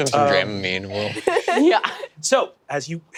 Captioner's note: laugh